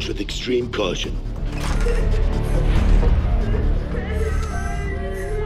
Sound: crying

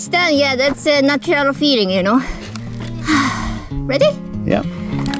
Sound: sighs

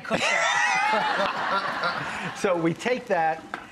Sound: laughing

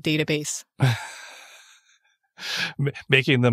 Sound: laughs

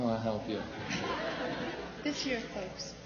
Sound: laughter on video

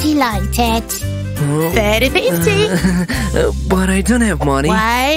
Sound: embarrassed laughter

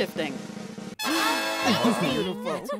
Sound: group Wows

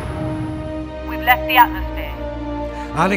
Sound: radio

